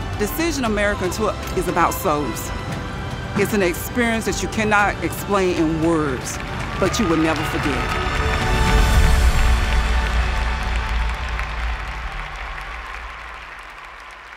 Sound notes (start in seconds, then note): 8.0 applause